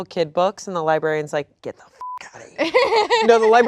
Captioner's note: beep